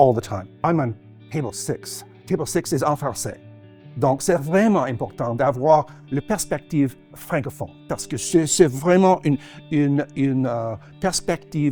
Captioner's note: speaking in French